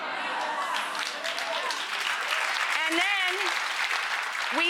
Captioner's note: audience applauding